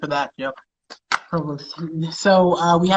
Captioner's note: speaks faintly